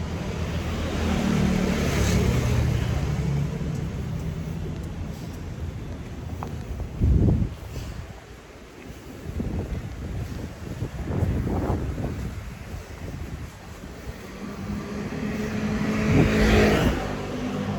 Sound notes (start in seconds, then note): 0.1 vehicles pass; 6.9 wind gusts; 11.1 wind rushes; 14.0 vehicles pass